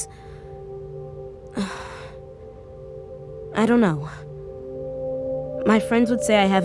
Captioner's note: she sighs